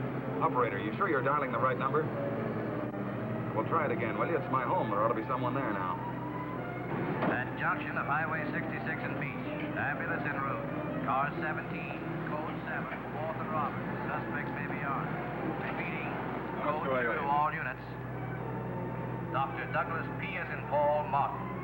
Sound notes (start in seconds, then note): 7.9 man On Radio